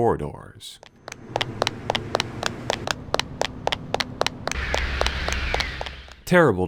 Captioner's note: metallic drone of footsteps